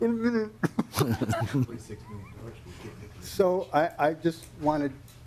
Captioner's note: laughing